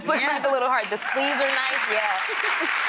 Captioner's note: audience applauds; giggles